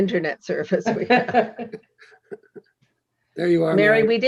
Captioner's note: laughing